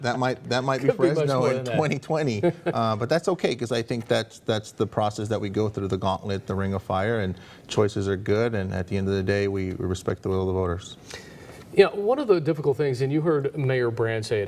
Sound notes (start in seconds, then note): 3.8 laughter